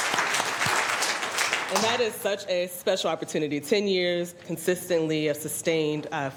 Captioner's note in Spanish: Aplausos